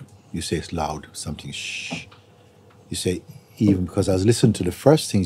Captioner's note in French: fait des chuintements